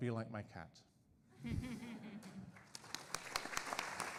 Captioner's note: audience and panelists laughing; audience applauding